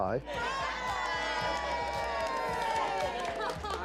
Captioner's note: cheering